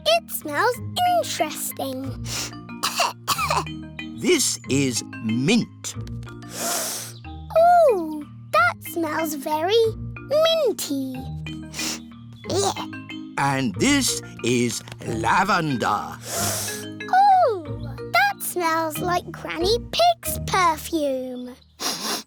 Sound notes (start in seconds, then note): 2.8 sniffs and coughs; 6.4 sniffs; 11.7 sniffs; 16.2 sniffs